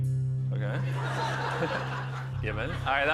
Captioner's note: laughter